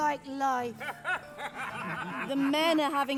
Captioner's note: laughter